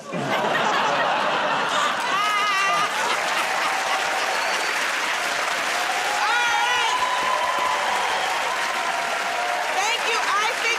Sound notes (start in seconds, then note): 0.0 laughter; 3.3 cheers and applause